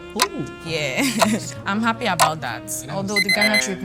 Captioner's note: laughs